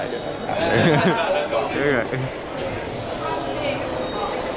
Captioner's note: laughing